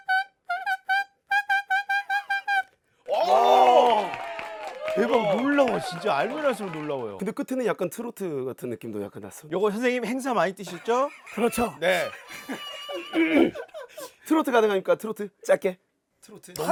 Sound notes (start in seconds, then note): 3.0 applause